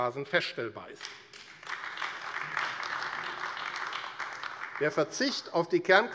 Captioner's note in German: Beifall AfD